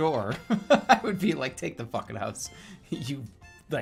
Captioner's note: laughing